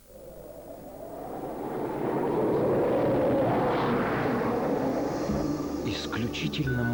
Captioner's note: wind noise